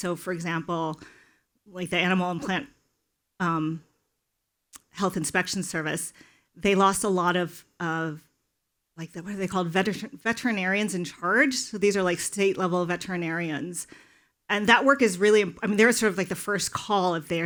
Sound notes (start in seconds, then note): none